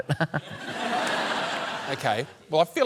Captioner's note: laughter